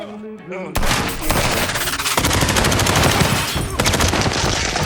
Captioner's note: robot whirring; gunshots blasting